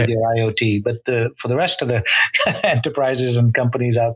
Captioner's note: laughs